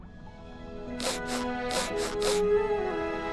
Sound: sniffing

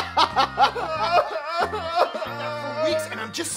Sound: laughing; crying

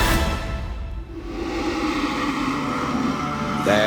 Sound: low growl

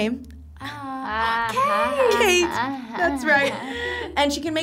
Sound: gasps; both laugh

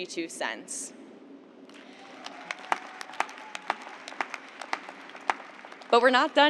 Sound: cheers and applause

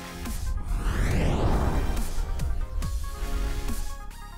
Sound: techno zoom

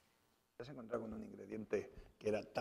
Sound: speaking spanish

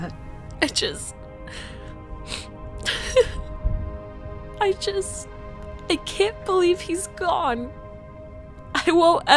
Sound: sobs

